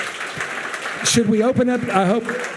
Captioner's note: audience cheering and applauding